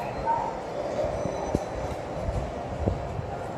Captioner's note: chime